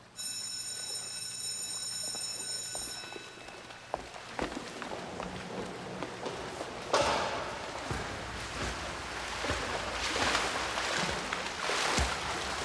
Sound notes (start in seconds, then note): 0.0 bell rings; 3.8 water splashes